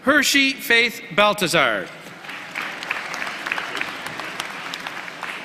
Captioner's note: applause